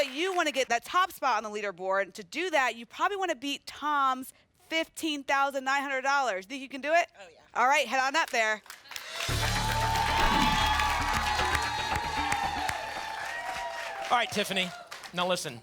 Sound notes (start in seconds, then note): 10.7 applause and cheering